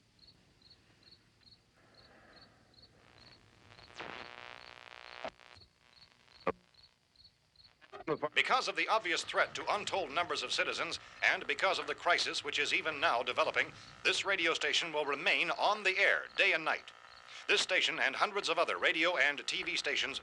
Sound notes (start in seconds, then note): 2.6 static buzzing; 5.1 frequencies tuning; 8.0 man on radio